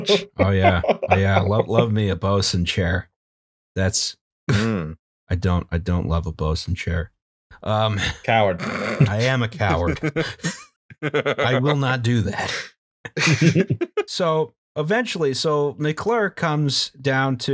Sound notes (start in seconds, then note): 0.0 laughter; 8.2 laughter; 13.1 laughter